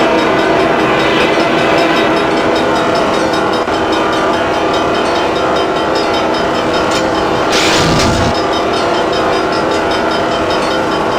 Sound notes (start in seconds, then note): 6.5 mechanical grinding